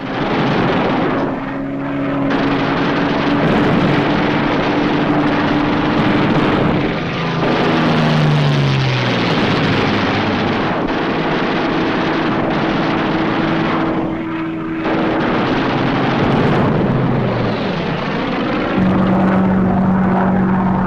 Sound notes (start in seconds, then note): 0.2 guns firing; 6.0 booming